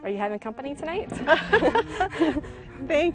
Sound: laughing

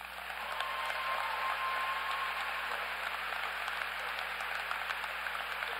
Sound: applause

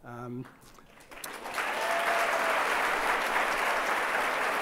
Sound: audience applauds

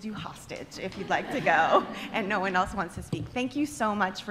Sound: laughter

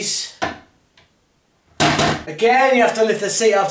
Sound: toilet seat bangs

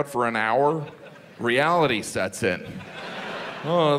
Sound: audience laughs

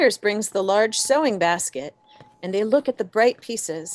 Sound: footsteps

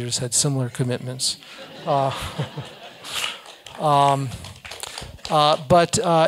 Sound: laugh; applause

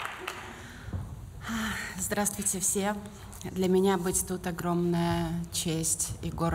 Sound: foreign language

